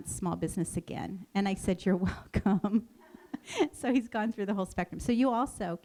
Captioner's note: chuckles